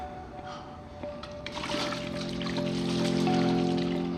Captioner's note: shakes water bottle